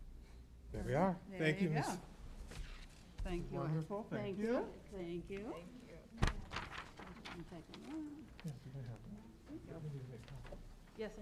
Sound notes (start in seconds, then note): 8.1 chatter